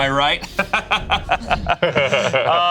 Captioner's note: laughs